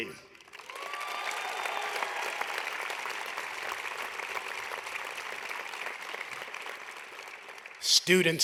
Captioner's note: applause